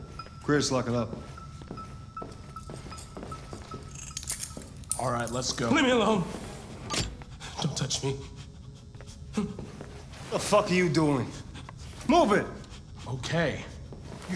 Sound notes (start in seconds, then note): 3.6 handcuffs click; 6.6 agitated breathing